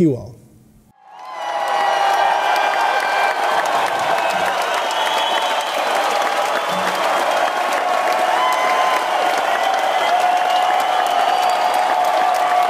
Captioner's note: applause